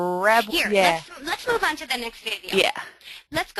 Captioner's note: voiceover